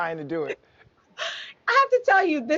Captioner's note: Sheinelle chuckles